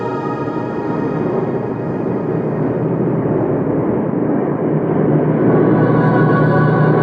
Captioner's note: aircraft whirring; deliberative choral music